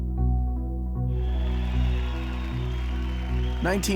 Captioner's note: crowd cheering